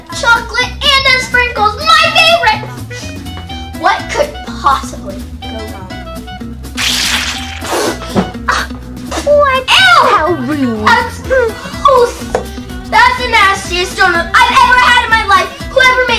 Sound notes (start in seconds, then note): 6.8 squishing sound